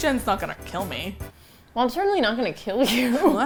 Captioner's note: indignantly